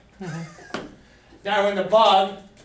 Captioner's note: laughter